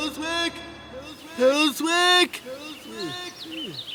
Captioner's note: echoing